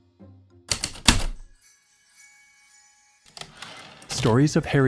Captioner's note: heavy typewriter keystrokes, light chimes, slide return